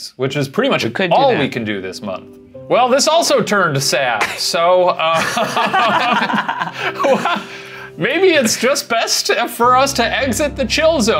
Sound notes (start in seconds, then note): 5.0 laughing